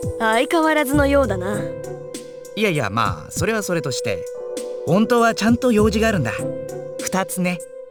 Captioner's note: none